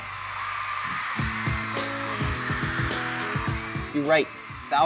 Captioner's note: crowd screaming